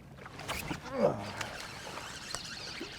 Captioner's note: rod whipping